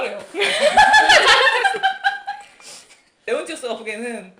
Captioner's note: laughing